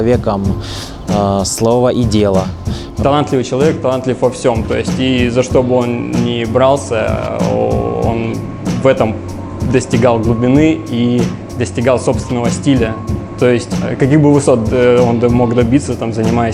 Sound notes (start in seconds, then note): 3.1 scrip-scratch